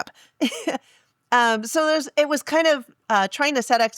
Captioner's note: laugh